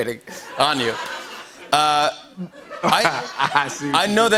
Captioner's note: laughs